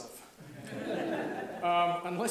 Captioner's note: audience laughs